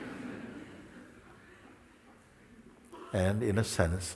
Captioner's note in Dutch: gelach